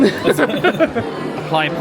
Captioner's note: men laugh